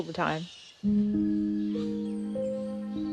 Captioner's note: chirping, twittering